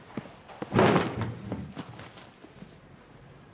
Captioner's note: slamming